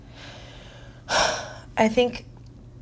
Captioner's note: sighs